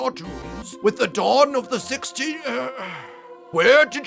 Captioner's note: sigh